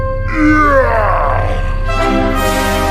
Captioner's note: slow motion yelling